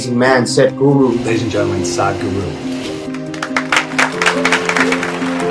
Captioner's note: applause